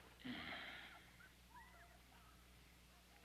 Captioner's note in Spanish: suspiro